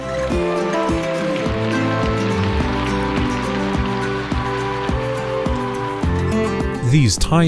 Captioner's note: applause